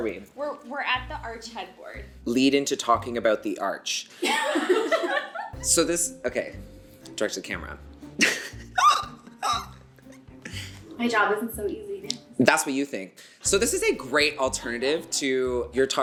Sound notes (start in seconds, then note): 4.2 all laugh; 8.2 laughs